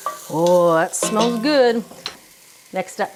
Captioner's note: spoon thumping